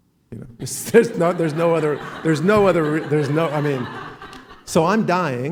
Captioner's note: laughing